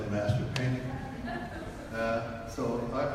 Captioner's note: audience laughs